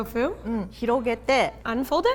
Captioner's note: speaking in Japanese